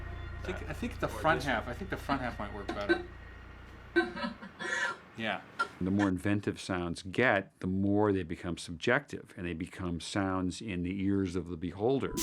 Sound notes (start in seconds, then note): 3.9 female voice laughing